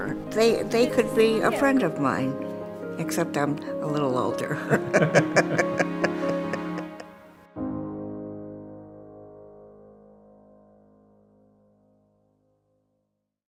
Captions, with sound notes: They could be a friend of mine except I'm a little older [laughs].